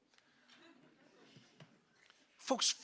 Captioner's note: audience laughing